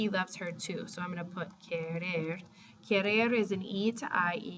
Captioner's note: spanish